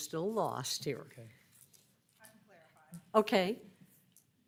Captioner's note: speaking in background